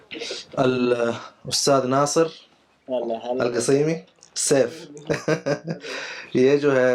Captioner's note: Arabic